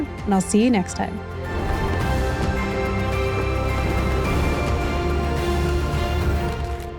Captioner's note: bright music; screen whooshing